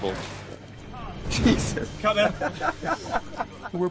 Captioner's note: laughs